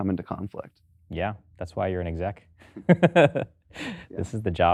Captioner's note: laughs